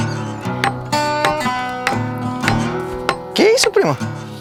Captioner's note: hammering